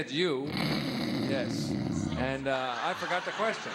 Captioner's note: snoring